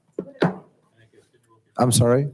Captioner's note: hushed speaking away from microphone